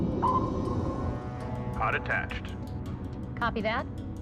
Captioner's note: man over radio